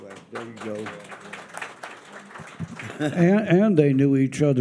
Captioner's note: audience applauding